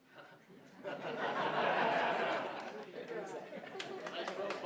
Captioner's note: audience laughs